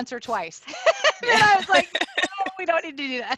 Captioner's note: laughter